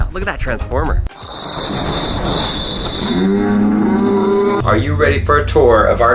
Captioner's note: slow motion crashing